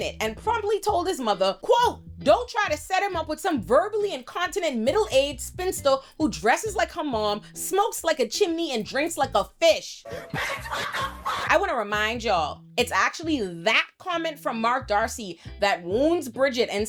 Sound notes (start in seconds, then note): 10.0 laughing